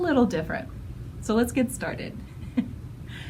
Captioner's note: giggle